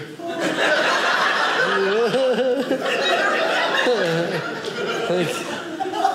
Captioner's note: audience laughing